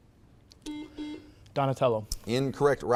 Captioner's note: buzzer beeps